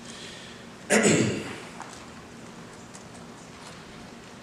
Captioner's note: clears throat